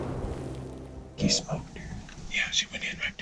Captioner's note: whispering